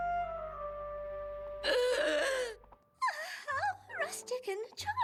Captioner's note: all gasp; gasps dramatically